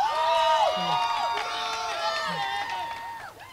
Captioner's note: crowd cheering